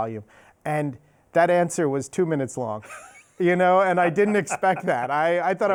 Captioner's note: laughs